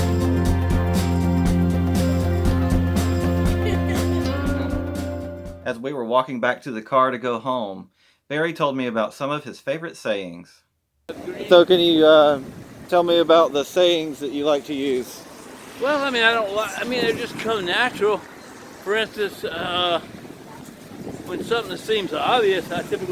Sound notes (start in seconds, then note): 3.4 people laughing